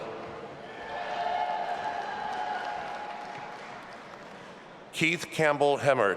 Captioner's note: audience applauding and cheering